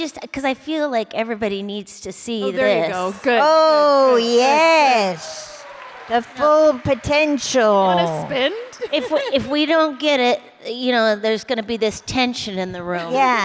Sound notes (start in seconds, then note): 4.6 applause